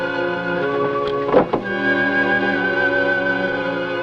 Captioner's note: door Opens